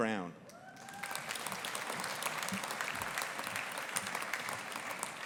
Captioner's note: audience applauding